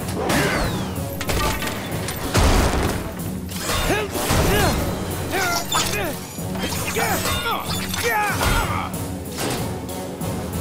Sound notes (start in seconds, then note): 3.3 grunting